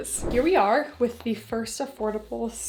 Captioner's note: screen whooshing